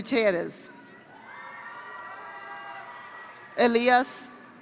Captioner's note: audience cheering